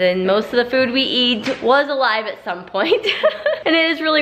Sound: laughs

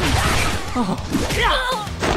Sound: grunts; gasps

